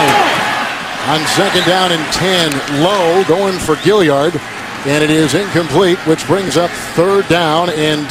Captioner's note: crowd yelling